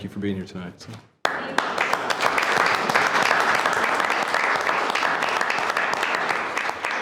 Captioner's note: all clapping